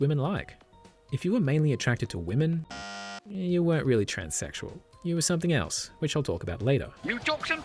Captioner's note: bzzt!